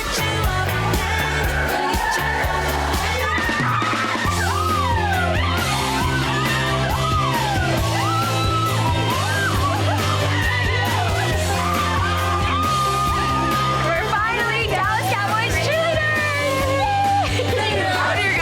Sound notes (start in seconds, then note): 3.7 upbeat music; 3.7 women cheering